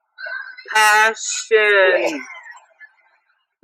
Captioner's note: vomiting